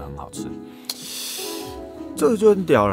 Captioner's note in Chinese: 嘶~~~